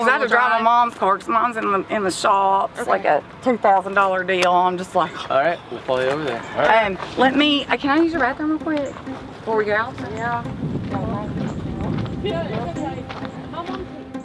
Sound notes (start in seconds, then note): 4.9 sighs; 11.3 pensive music